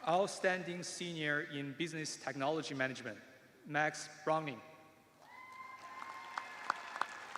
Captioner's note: cheers and applause